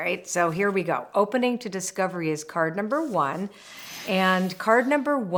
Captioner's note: frame whooshes